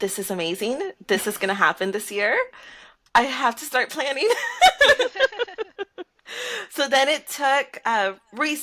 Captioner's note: laughter